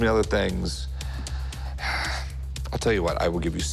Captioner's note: sighs